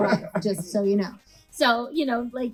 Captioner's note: laughs